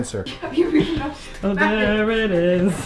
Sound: laughing

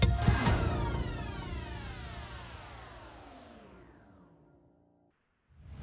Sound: phaser sound

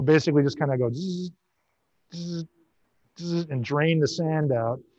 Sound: buzzing

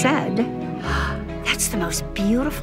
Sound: gasps

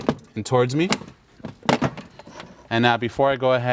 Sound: metal clanking

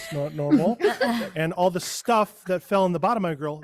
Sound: group laughs

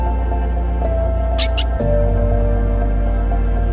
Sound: Sound of Pika chirping

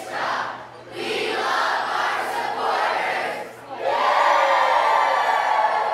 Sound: cheers

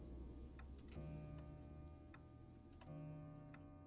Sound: clock chiming

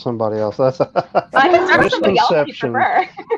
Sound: laughter

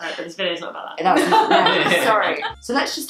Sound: laughing

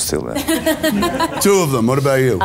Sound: Rachel laughs

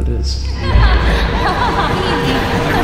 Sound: emma joyfully laughing; jacob joyfully laughing

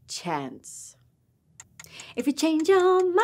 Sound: clock ticking

